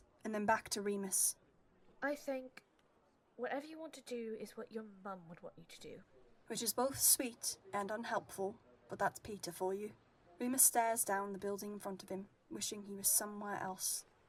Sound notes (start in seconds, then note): 9.4 people chattering